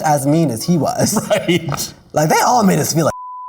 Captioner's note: laughing